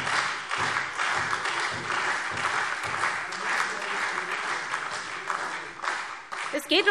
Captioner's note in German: Beifall SPD und Freie Demokraten